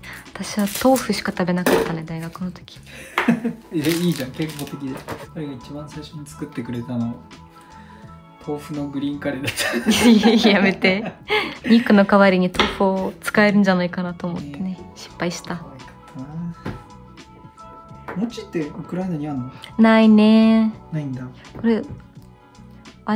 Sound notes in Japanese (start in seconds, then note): 9.5 笑い